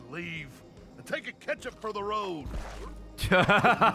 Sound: laughs

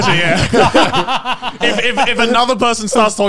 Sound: all laughing

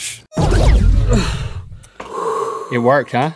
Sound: sigh of relief

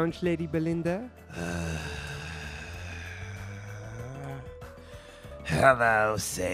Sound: very long sigh

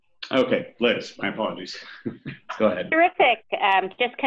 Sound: chuckles

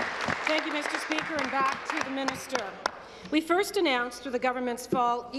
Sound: applause

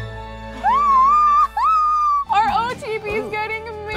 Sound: squeals

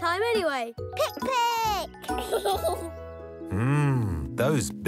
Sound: laughs

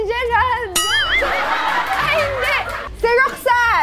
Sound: laugh

